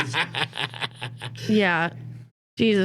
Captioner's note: laughing